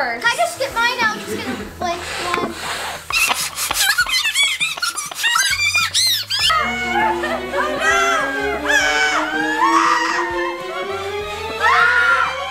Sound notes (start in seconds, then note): 3.0 squeaking; 7.4 anticipation music; 7.4 screaming